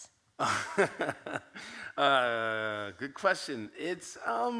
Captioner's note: laughs